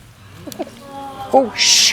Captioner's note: spectators groan